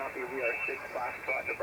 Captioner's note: radio static